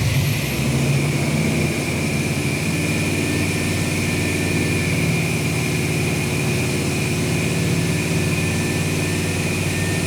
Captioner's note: engine Revving